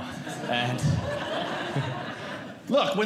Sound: audience Laughing

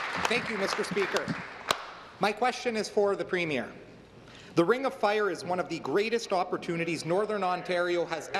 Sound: applause

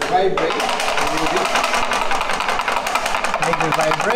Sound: chocolate mold tapping

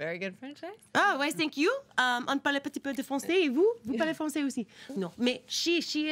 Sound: speaks in foreign language

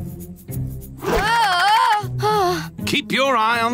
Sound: groaning

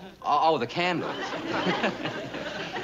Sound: chuckles

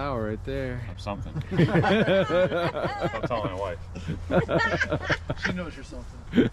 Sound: everybody laughs

